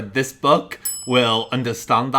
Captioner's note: pings